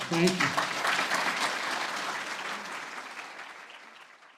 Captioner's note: applause